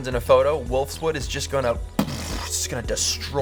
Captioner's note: low punching sound